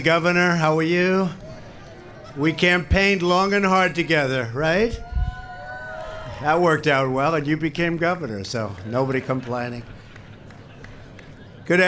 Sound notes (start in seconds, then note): 5.8 applause